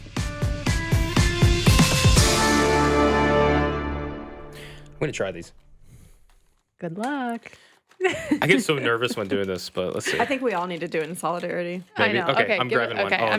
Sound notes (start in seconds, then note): 0.0 upbeat music; 8.0 laughs